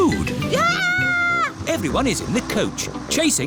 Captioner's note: shrieks